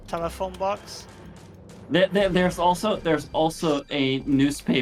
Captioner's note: distant mechanical wheezing